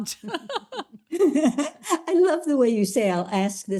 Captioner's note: laughs